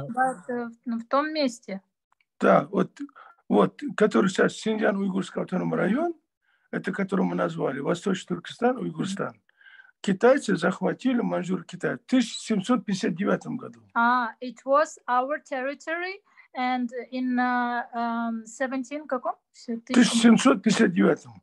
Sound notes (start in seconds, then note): 1.1 in Russian; 7.1 in Russian